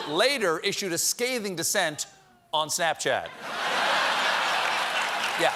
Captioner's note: applause; laughter